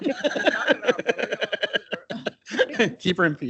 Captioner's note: everyone chuckles